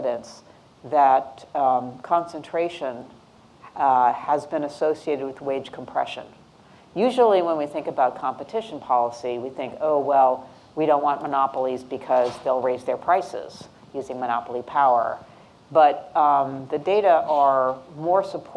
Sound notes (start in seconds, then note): none